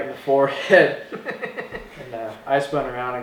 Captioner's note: laughter